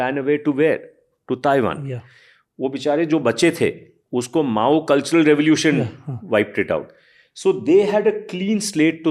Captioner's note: speaks in Hindi